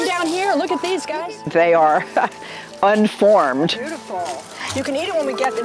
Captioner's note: chuckles